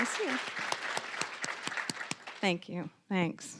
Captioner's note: applause